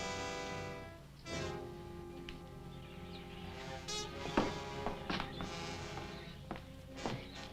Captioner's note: tense orchestral music; birds chirping